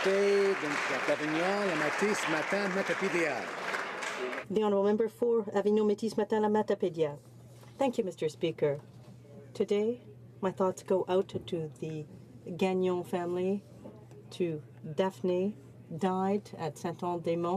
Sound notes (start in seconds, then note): 4.0 some Applause